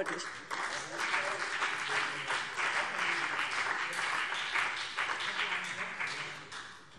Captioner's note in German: Beifall BÜNDNIS 90/DIE GRÜNEN